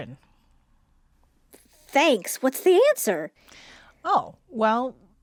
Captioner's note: silence